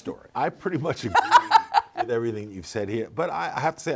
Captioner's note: laughing